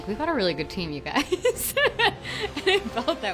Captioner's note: laughs